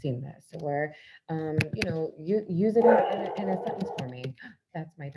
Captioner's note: dog barks